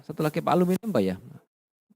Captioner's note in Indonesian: none